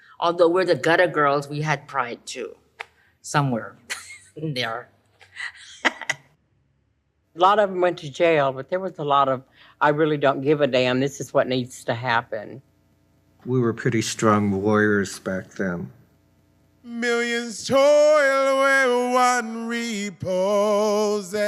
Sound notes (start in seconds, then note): 5.2 laughs